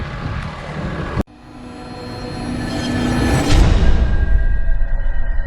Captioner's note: machinery whirring